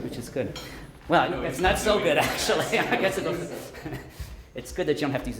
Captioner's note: laughs